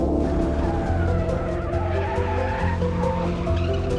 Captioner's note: tires squealing